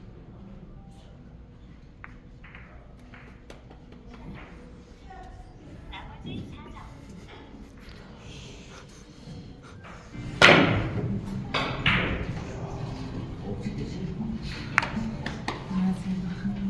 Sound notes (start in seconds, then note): 14.8 applause